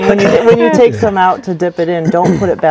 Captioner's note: laughter